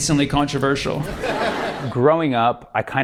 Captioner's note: laughter